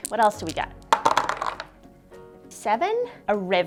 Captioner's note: dice clunking on whiteboard